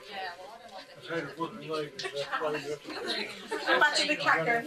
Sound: audience walk in and talk

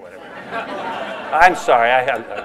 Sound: laughter

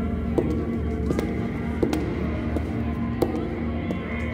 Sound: ominous footsteps

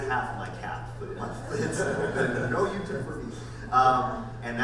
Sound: panel laughs

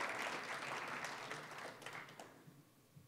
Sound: applause, cheering; applause

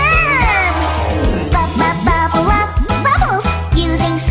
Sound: bubbles

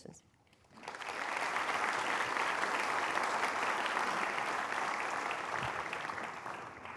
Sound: applause

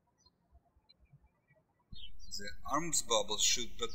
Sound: birds chirping

